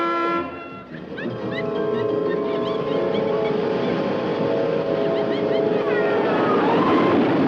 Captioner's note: car horn honking; roller coaster rattling; animatronic laughing; people screaming